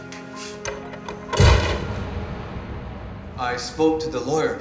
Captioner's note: door slams